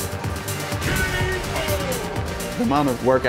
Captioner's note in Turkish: oyun sesi